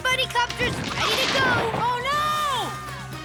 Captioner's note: loud cracking sound